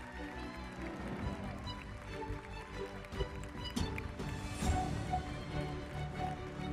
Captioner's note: audience applauding; audience cheering; uplifting music continues